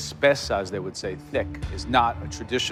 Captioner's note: speaks Italian